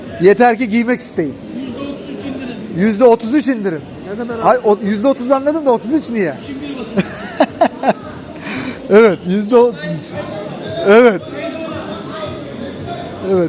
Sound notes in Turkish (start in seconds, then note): 6.9 kahkaha